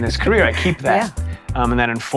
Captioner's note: laugh